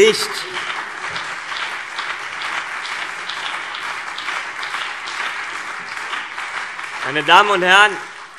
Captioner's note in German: Beifall CDU und BÜNDNIS 90/DIE GRÜNEN